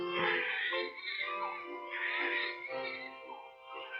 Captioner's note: babies crying